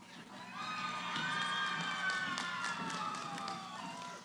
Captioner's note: cheering